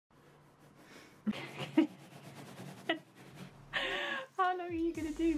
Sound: laughing

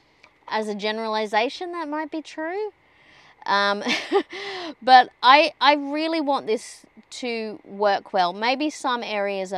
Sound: scoffs

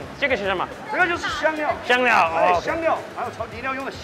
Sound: speaks mandarin

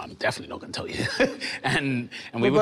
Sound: Damson laughing amusingly

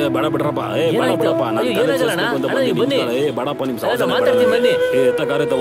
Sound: speaking Telugu

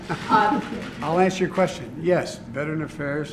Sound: laughs

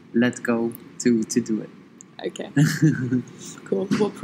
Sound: laughs

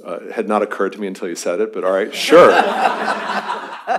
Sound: laughter

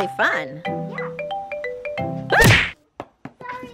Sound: smash sound effect

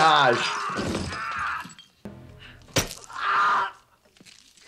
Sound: yells in pain

